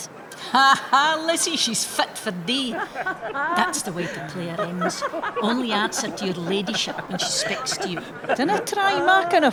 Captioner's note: laughing